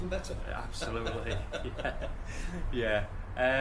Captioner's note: laughter